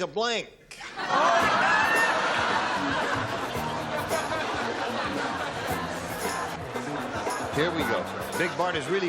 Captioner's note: laughter